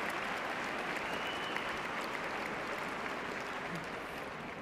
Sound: cheers and applause

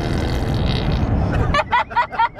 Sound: fart noises; laughter

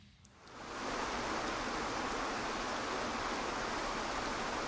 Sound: waterfalls burbling

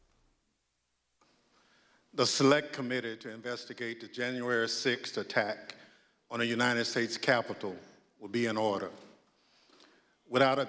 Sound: gavel bangs

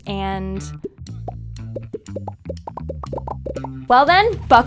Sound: multiple popping sounds

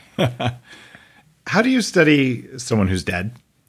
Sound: chuckles

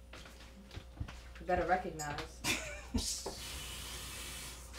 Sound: Efosa giggles

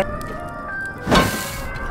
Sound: clang

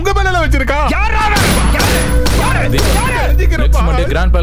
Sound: gunshot

